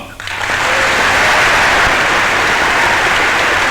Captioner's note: applause